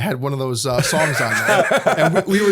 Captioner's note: laughter